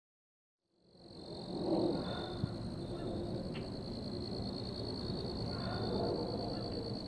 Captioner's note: crickets chirping; birds chirping